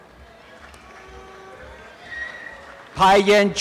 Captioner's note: applause and cheering